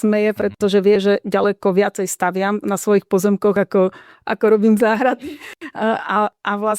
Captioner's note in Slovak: smiech